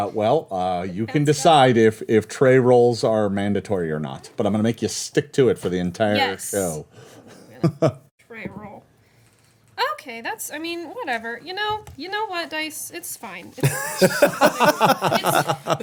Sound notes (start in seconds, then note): 13.6 everyone laughing